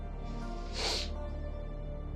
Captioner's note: sniffs